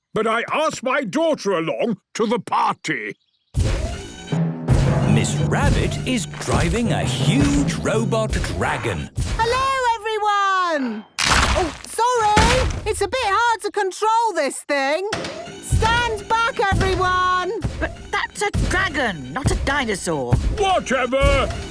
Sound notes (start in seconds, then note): 3.2 thudding, mechanical whirring